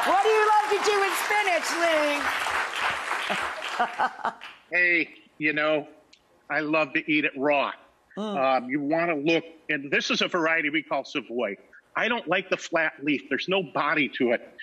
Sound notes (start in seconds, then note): 2.3 audience applauding; 3.3 chuckling